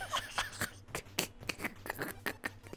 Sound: hysterical laughing

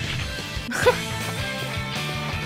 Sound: chuckles

